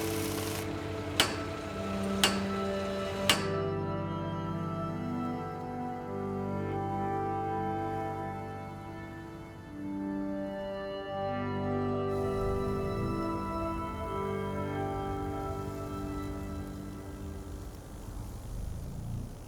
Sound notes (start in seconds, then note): 1.5 hammer banging; 4.0 somber music; 12.1 faint engine revving